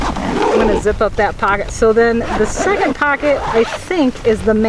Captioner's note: zipper noises